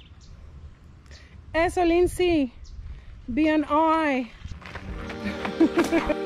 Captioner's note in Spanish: risas